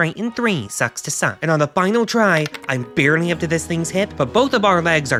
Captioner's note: sound of rolling dice